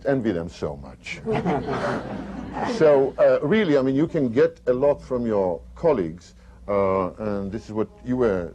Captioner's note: laughter